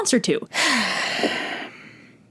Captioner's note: sigh